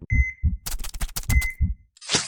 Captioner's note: beeping